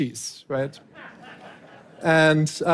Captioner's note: laughter